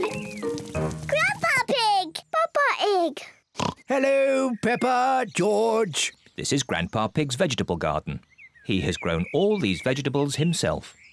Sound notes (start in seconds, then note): 3.6 oinks